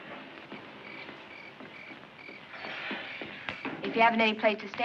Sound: insects chirping

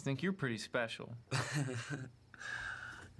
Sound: laughs

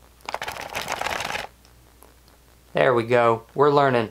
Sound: box rustling

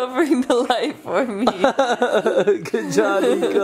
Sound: laughing

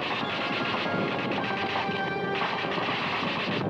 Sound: guns firing

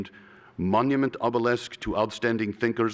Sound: russian accent

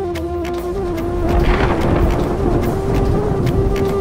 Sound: thunder rumbling

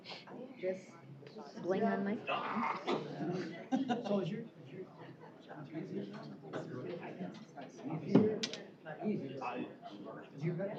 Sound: off-mic chatter

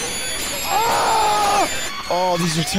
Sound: horrific screeching noises and sound effects; screaming

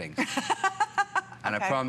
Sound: laughter

